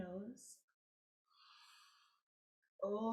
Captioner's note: inhaling deeply